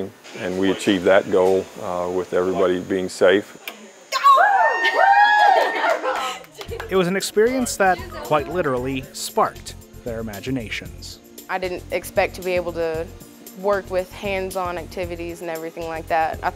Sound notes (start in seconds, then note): 4.1 shouts and cheers